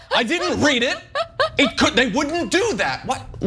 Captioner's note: laugh